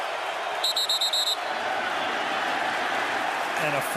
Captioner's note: whistle